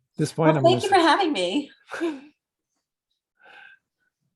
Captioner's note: chuckles